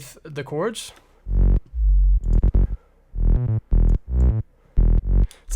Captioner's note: bass sound effect